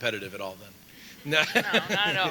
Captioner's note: laughs